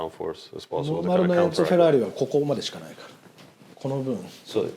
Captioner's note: speaking Japanese